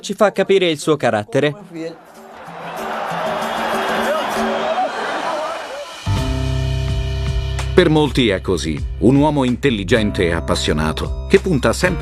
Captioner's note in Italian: Applauso